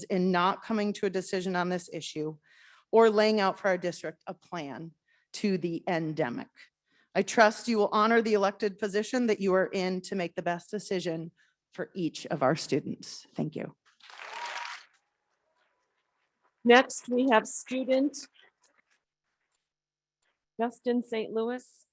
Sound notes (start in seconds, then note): 14.0 audience clapping